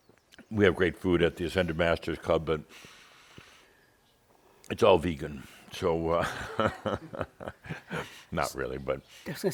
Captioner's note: Adamus chuckles